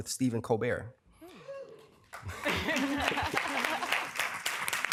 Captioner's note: cheering and applause